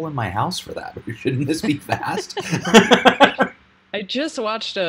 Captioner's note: laughing